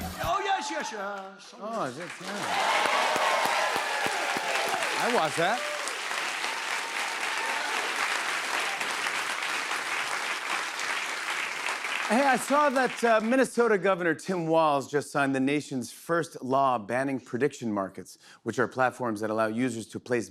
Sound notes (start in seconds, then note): 2.8 cheers and applause; 7.1 applause